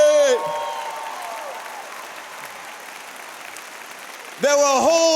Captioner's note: applause